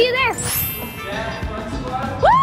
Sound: chimes ringing

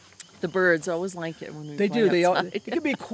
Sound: laughs

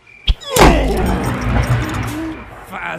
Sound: skull crack

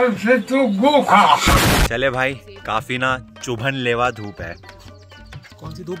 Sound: uses heavy hindi

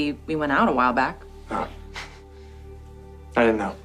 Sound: laughs

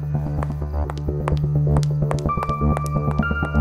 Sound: footsteps

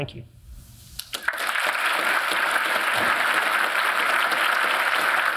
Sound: audience applauding

